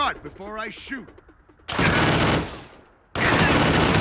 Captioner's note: gunshots